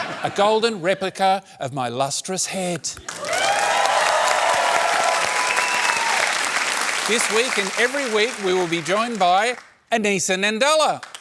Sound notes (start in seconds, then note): 3.0 cheering, applause; 11.0 cheering, applause